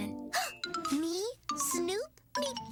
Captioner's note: gasp